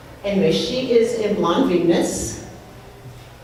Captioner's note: none